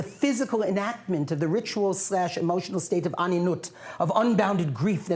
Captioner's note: non-english speech